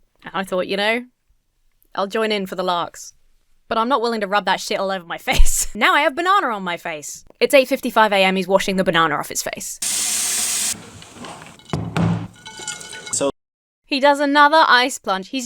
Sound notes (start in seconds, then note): 9.8 water running; 10.7 bowl thuds; 12.3 ice tinkles